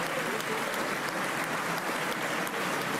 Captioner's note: applause